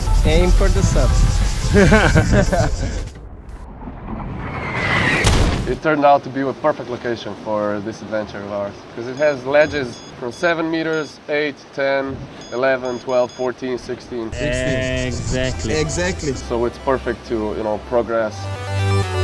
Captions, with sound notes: Aim for the SUPs! *laughter* *bomb falling sound effect* It turned out to be the perfect location for this adventure of ours. Because it has ledges from 7 meters, 8, 10, 11, 12, 14, 16. 16! Exactly! So it's perfect to, you know, progress.